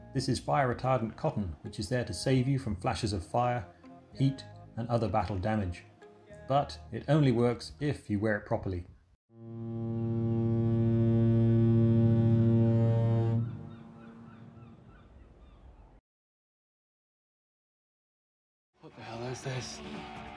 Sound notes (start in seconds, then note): 9.4 horn